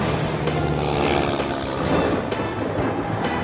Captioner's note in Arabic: هدير محرك الطائرة; موسيقى درامية